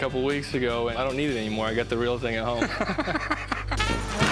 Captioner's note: laughs